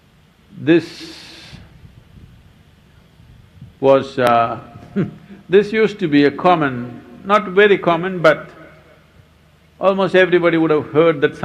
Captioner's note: laughs